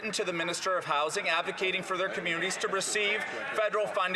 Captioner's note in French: voix de l'interprète